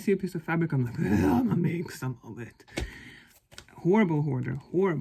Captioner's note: zombie sounds